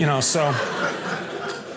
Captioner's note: audience laughing